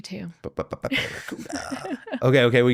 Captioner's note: laughing